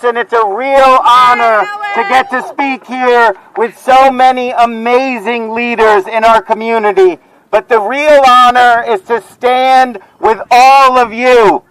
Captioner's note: cheering